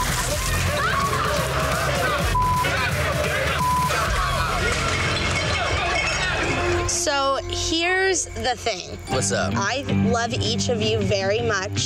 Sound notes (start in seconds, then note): 0.6 yelling